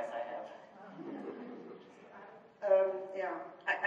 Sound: audience laughs

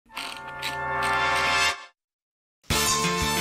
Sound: wheel clicks

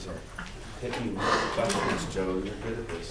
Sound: coughing drowns out speaker

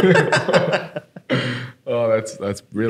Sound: laughing

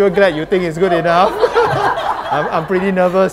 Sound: laughter

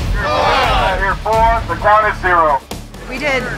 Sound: voice over bullhorn

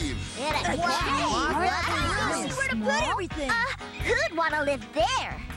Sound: excited Chatter

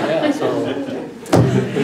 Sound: laugh

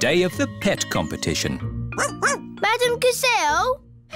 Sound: barks

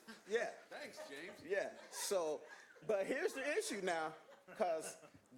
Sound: laughter

